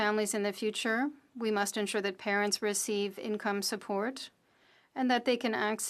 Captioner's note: speaking French